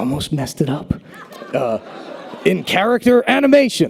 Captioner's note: audience laughter